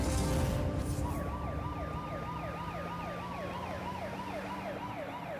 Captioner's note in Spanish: sonido de sirenas